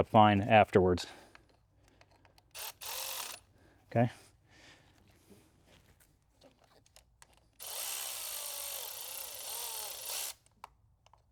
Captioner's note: drilling